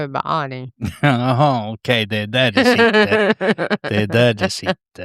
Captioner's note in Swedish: skratt